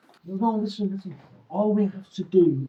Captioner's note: Sam scoffs